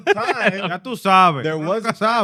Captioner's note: non-english Speech